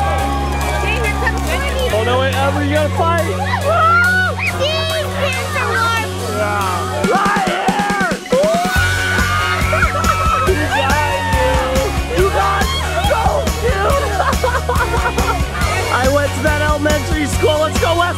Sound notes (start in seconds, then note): 9.5 crowd cheers; 14.9 kids laugh